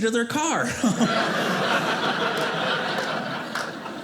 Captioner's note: audience laughing